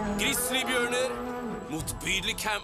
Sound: grizzly bear roars

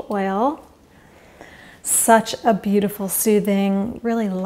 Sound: inhales

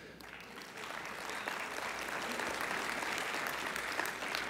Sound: applause

